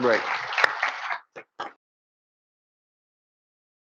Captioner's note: audience clapping